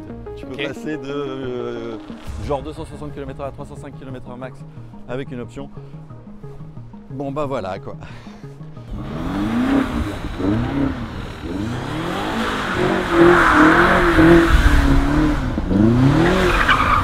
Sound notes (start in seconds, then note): 8.8 engine roaring; 11.6 tyres screech